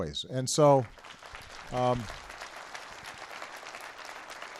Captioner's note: applause